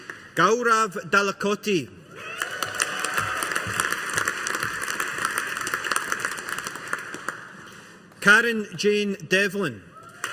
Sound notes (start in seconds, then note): 2.1 audience applauding